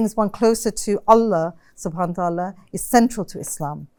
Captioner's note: non-english speech